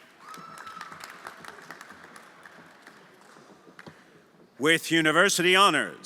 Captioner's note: everyone applauding